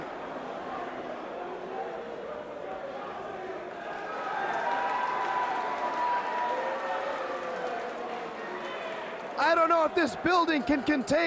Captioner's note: crowd cheering